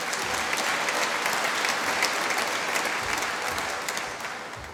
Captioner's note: applause